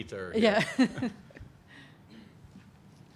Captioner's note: laughs